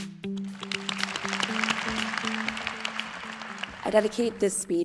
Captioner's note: applause